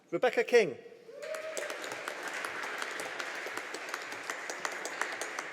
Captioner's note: audience applauding